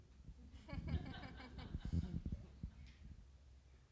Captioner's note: people laughing